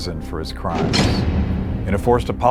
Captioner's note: door slamming